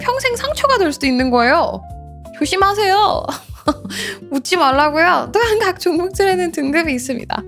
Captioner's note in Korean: 웃음